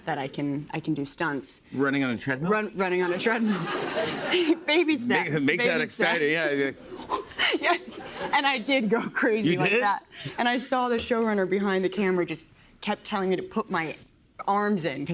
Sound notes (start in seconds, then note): 3.2 laughter; 7.0 panting